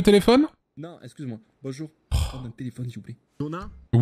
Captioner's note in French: Dona soupire